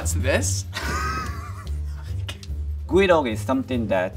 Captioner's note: laughs